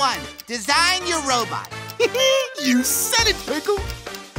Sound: chuckles

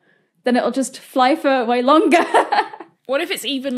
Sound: laughs

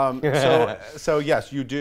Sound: laughs

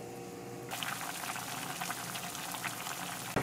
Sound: boiling

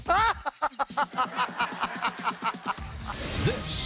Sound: laughs; laughter

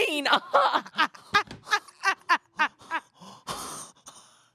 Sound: both laughing

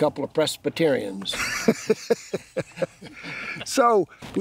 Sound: laughing

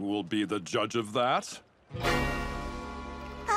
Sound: none

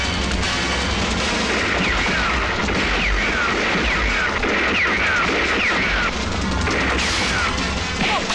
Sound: gunshot

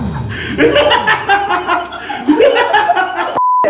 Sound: laughing

